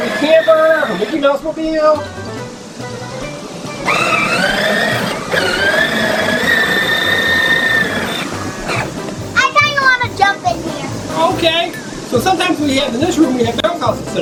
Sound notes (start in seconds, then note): 4.4 sled engine driving